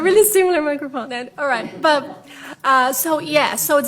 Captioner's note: laughs